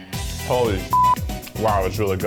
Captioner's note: beep